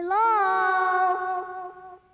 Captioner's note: voice echoing